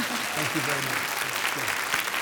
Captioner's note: audience applauding